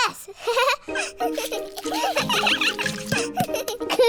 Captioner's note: giggles; all giggling